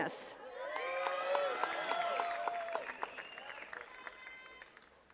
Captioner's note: attendees cheering and clapping